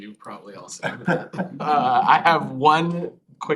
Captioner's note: laughter